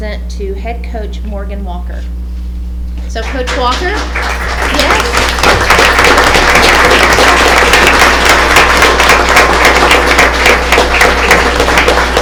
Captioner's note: applause